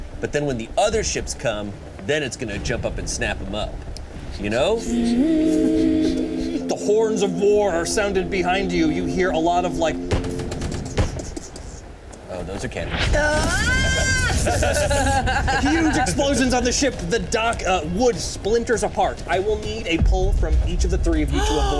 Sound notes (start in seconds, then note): 5.4 horns blaring; 10.6 explosions rumbling; 13.2 laughs